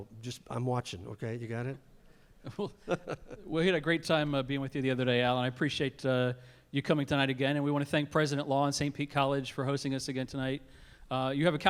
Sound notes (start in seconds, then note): 2.4 laughter